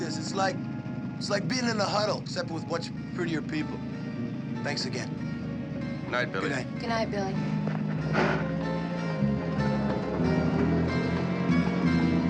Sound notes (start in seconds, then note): none